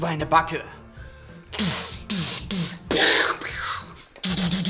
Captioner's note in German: Er macht Schießgeräusche